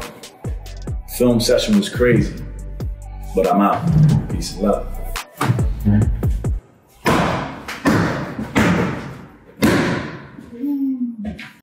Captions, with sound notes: Film session was crazy, but I'm out. Peace and love. [ball bouncing loudly]